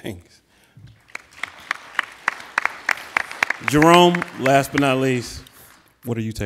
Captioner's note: applauding